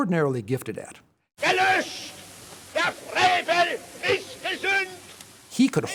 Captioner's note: speaking German